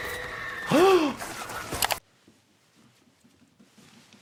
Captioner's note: victim screaming